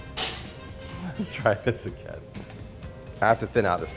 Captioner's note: laughs